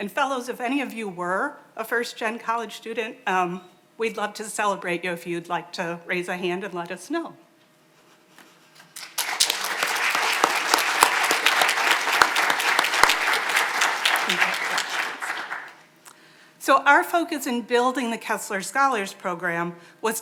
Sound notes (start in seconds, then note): 8.8 audience applauding